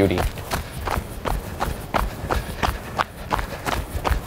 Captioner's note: sound of runner’s footsteps